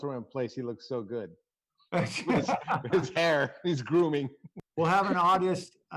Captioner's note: laughter